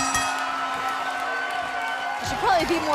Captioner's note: cheers & applause